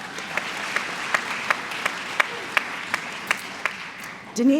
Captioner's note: applause